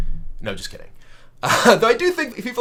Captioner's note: laughs